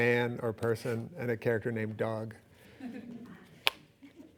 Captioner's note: laughing